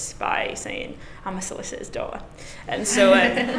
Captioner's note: class laughing